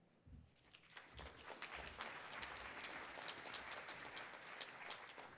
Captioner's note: attendees applauding